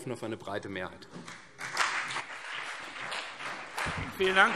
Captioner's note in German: Beifall CDU und BÜNDNIS 90/DIE GRÜNEN